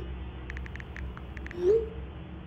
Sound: texting

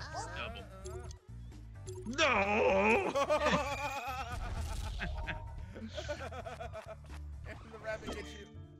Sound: laugh

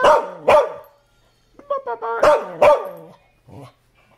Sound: barking

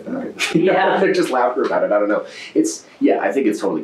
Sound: laughs

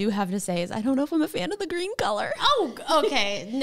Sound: chuckles

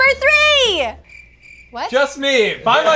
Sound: crickets chirping

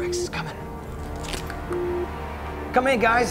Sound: radar beeps

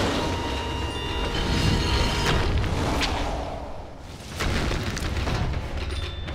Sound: none

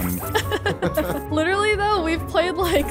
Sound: laughing amusingly

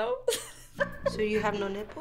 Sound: chuckling

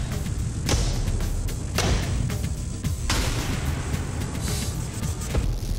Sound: rock music; blade impacts

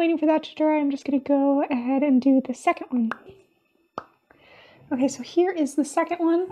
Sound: pop!

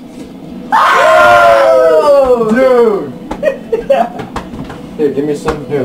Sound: all cheer

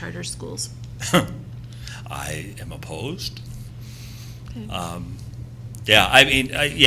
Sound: laughs

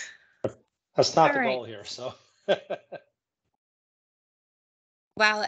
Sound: laughing; laughing

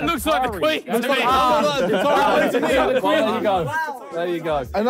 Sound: all laughing

